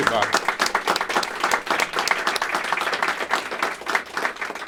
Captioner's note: applause